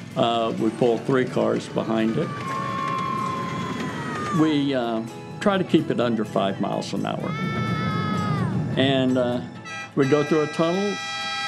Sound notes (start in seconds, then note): 2.9 kids cheering